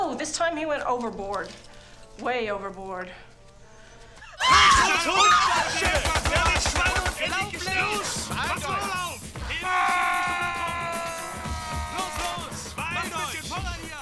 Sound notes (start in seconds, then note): 6.4 speaking german